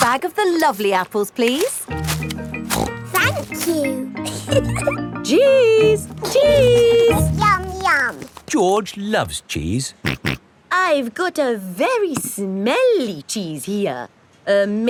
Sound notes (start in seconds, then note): 2.4 snorts; 4.2 giggles; 10.5 snorts